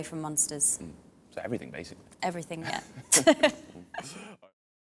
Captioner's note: laughs